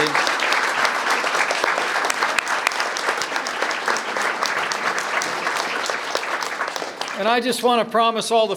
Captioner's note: applause